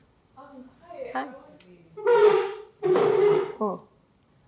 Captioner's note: indistinct shuffling